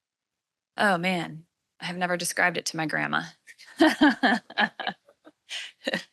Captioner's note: laughs